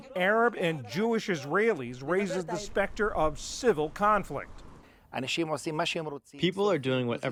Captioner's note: through translator